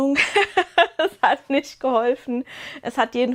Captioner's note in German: gelächter